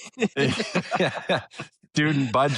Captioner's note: laughter